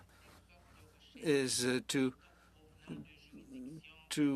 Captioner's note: speaking French